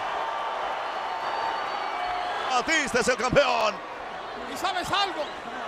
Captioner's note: applause